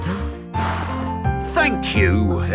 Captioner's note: blows